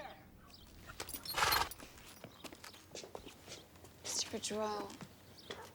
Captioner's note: horse shudders